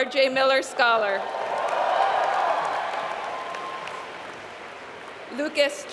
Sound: applause

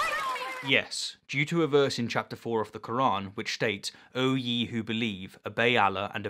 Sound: applause

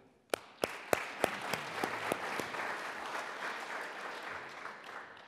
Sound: audience applauding

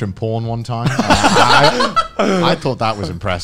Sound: others laughs

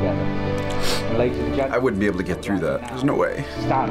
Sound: sniffs

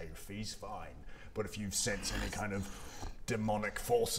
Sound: unsafe growling

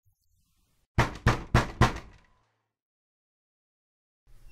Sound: door knock; door creaks

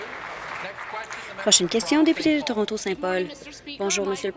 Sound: applause

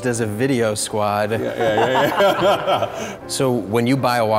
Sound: laughing

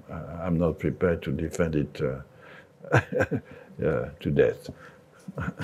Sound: laughs

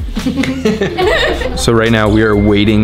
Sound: laughter

